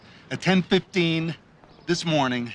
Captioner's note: none